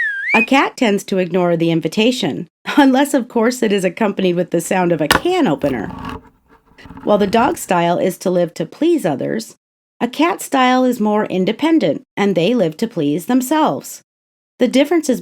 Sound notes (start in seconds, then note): 0.0 whistling; 5.1 can opening